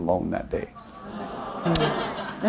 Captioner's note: laughter